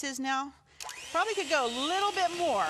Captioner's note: mixer whirring